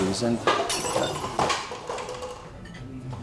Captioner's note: crash sounds